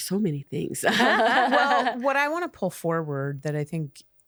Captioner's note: laughing